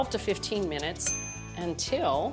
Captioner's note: bell dings